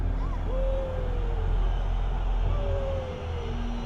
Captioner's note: crowd cheering